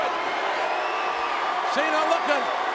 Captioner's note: spectators cheering